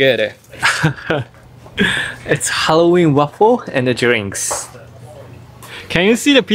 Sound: chuckles

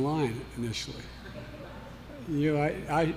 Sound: laughter

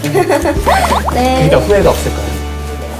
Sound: tap

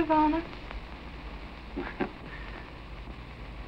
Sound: chuckling

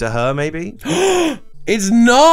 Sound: inhales

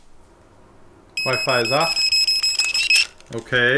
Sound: multiple beeping

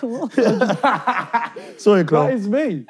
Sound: laughing

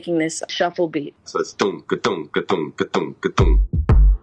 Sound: beat boxing; beat playing

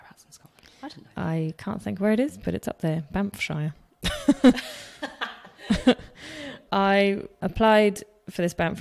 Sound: laughs

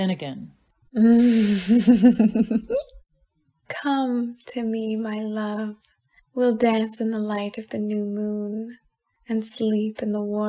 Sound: laughing

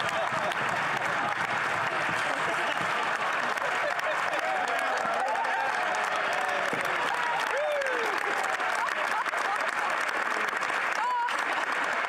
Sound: some Laughter

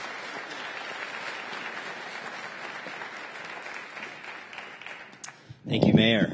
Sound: applause

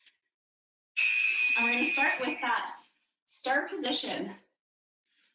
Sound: alarm blares

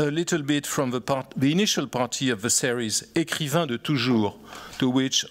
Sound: french

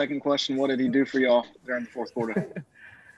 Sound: laughter

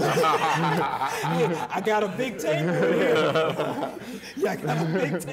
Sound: laughing

